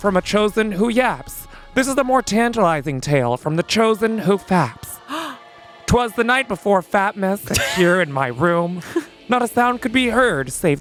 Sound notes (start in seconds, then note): 5.0 gasps